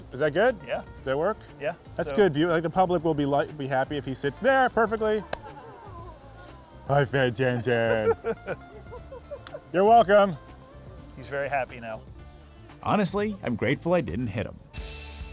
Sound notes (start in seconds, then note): 5.0 background laughter; 7.7 laughs